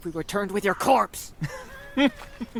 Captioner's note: amused chuckle